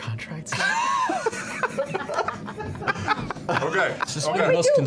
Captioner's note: laughter